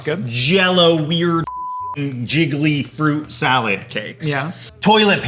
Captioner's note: beep